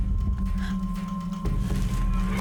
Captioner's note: gasping